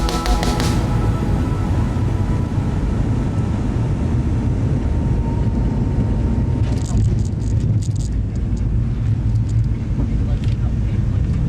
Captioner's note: music fades into plane rumbling and then landing